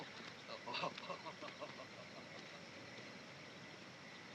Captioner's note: laughing